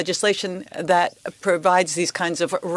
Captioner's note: speaking French